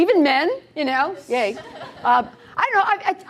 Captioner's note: laughter